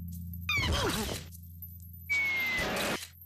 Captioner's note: groaning